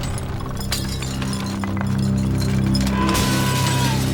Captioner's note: mantle rattles; glass shatters; spectral female voice screams